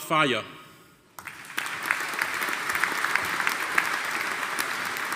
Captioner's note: audience applauding